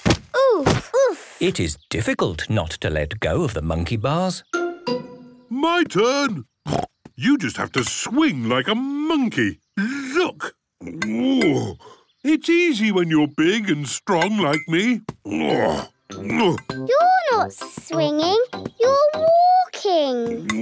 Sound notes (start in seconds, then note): 6.7 snorts; 10.8 grunts; 15.2 grunts